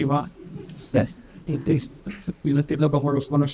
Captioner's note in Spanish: risas